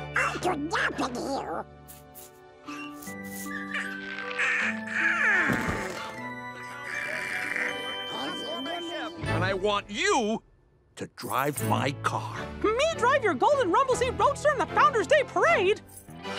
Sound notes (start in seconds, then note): 3.0 yawning; 6.7 snoring